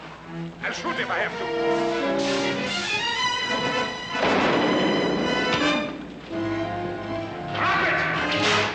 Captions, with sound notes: I'LL SHOOT IF I HAVE TO. [ Rifle Fires ] DROP IT!